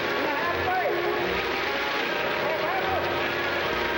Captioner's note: soldiers yelling